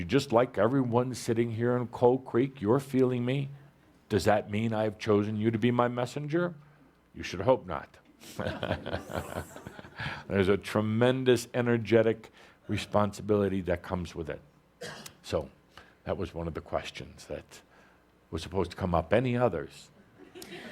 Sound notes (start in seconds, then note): 8.3 chuckles